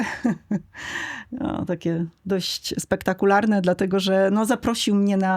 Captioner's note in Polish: śmiech